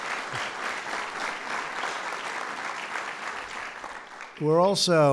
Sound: applause

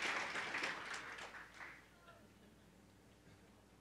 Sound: applause

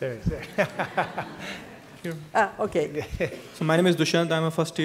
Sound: laughter

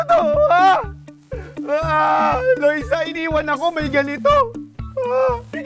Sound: cries

